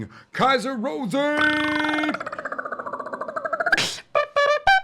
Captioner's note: high pitched clicking; trumpeting